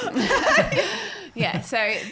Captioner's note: all laughing